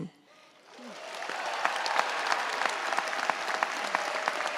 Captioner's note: audience applauds